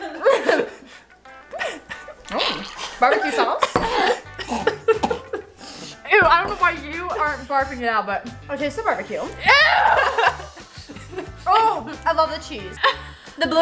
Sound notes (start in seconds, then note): 1.4 gagging; 3.9 spitting; 9.4 laughing